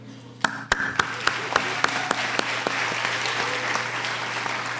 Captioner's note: applauding